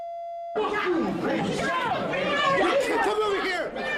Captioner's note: shouting continues